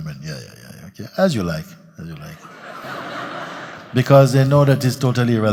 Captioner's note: laughter